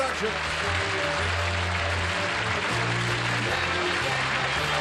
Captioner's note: applause